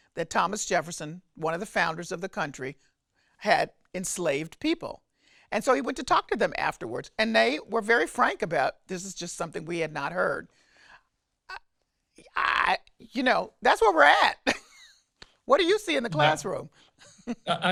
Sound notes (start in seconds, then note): 16.2 laughs